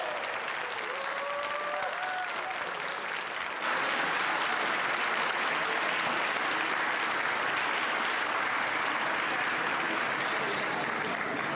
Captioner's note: applause